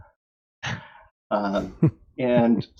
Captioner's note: laughter